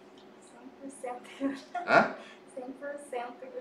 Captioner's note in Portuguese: risos